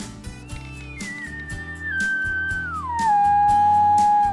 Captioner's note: elk lure sounds